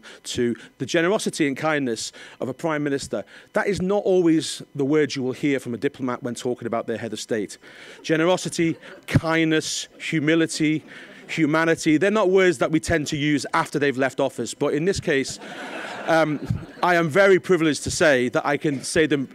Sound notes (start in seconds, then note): 15.3 audience laughing